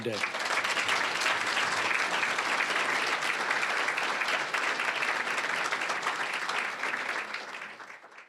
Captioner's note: applause